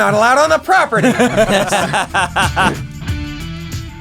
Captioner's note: laughter; rock music